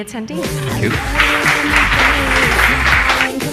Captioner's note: crowd applauding; upbeat music